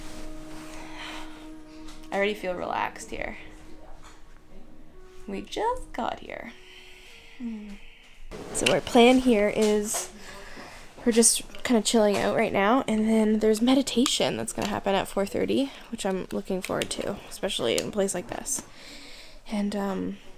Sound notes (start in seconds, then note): 7.4 sigh; 10.2 takes deep breath